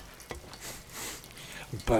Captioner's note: sniffs